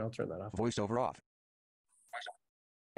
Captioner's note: voiceover